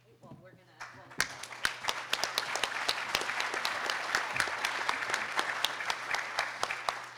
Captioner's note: audience applauding